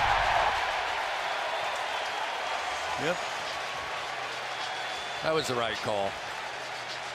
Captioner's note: crowd cheering